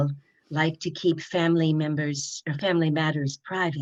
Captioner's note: none